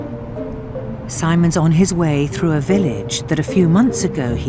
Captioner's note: voiceover